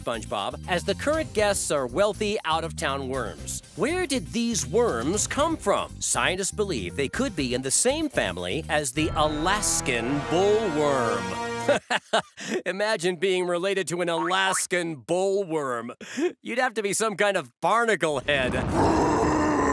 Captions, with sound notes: as the current guests are wealthy out of town worms. Where did these worms come from? Scientists believe they could be in the same family as the Alaskan bull worm. [chuckles] Imagine being related to an Alaskan bull worm. You'd have to be some kind of barnacle head. [growling]